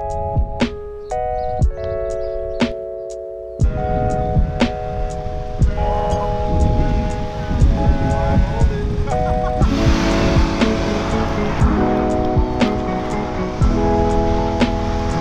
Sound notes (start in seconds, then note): 0.2 soft electronic music; 5.9 wind bellowing; 8.8 man laughing; 9.6 engine roaring